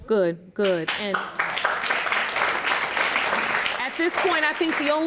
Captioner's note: audience applauding